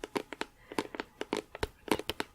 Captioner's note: tapping on plastic